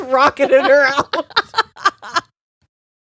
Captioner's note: both laughing